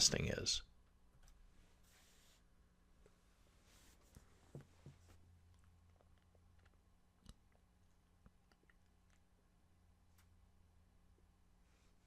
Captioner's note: pause